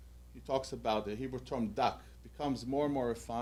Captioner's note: hebrew